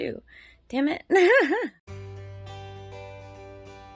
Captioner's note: laughs